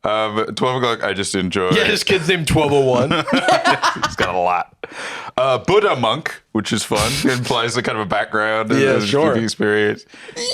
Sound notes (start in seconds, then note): 2.8 laugh